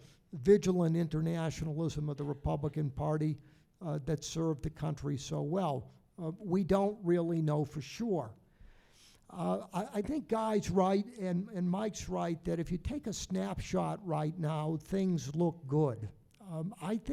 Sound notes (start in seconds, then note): none